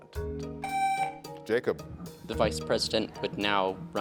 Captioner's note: tone sounds